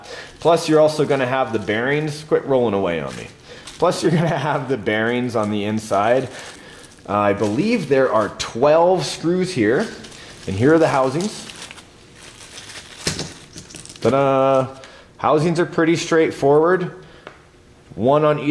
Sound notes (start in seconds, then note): 12.4 metal thudding